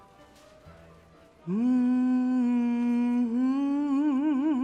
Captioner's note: humming